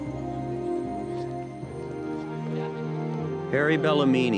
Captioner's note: people chattering